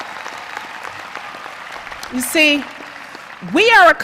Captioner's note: cheers and applause